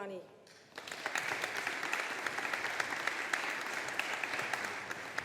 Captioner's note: audience applauding